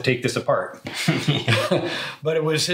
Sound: both chuckle

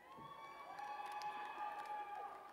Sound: applause

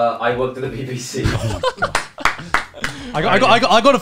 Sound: clapping

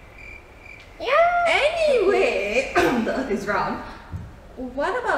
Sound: cough the Earth is round cough

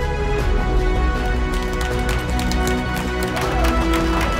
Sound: clapping

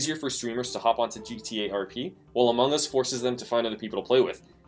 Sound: none

